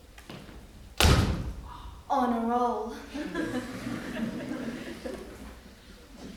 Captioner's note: stamps on floor